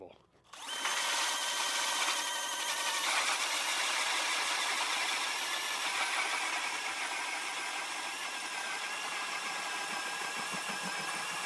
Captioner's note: whirring of ice auger